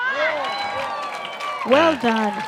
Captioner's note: applause